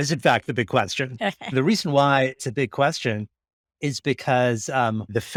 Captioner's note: laughing